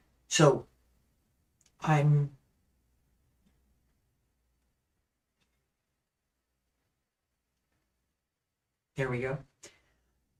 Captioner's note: silence